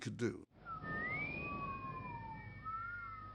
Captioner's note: whistling